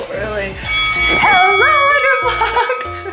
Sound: bell ringing

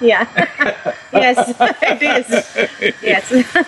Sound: both laugh

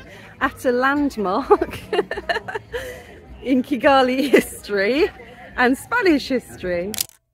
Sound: laughing

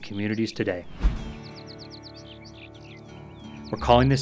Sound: birds chirping; light guitar music

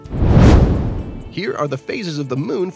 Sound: fireball roars past

